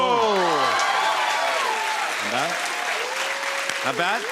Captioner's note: cheers and applause